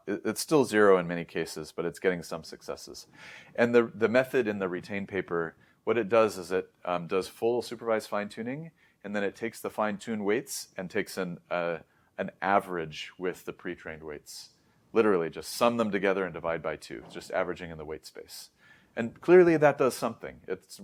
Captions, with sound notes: it's still 0 in many cases, but it's getting some successes. And the method in the RETAIN paper, what it does is it, uhm, does full supervised fine-tuning, and then it takes the fine-tuned weights and takes an, uh, an average with the pre-trained weights. Literally, just sum them together and divide by 2, just averaging in the weight space. [inhales] And clearly, that does something.